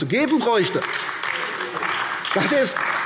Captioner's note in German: Beifall AfD